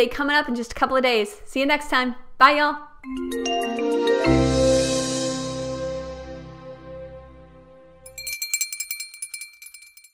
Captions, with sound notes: coming up in just a couple of days. See you next time. Bye, ya'll. (upbeat xylophone music) (bell ringing)